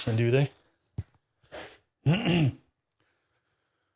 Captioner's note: clearing Throat